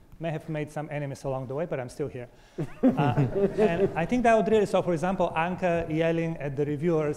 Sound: audience laughter

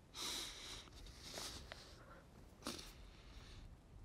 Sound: breathing shakily

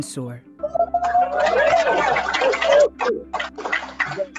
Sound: cheering

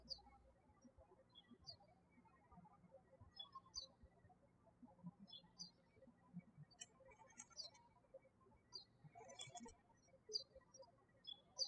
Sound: birds chirping

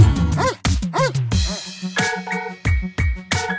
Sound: Bacon barking

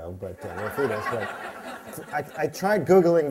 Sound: laughter

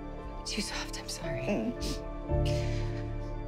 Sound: sniffles

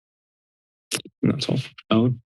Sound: silence; clicks tongue

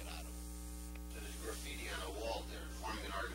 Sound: voice off camera

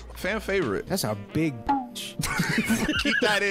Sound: both laughing

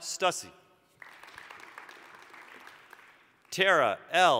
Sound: applause

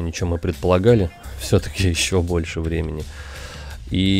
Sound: idiotic laugh

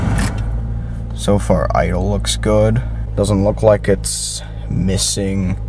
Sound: misfiring

